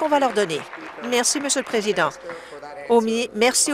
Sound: applause

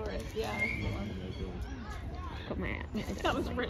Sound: background talking

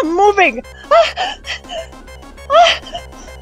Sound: hyperventilating

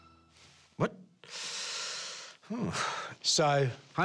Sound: inhales

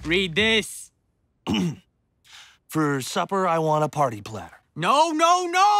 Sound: throat clears

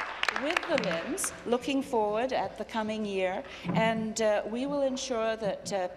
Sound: applause

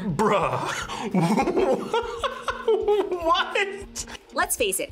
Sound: laughs

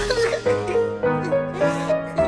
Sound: crying

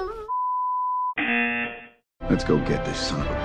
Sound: buzzer rings

